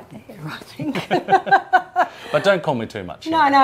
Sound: both laughing

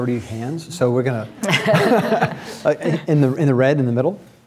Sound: laughing

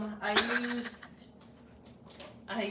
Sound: laughs

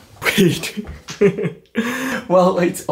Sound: chuckles

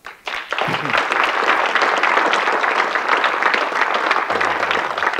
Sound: audience clapping

